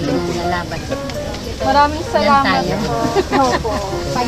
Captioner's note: laughs